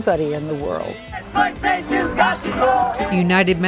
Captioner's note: crowd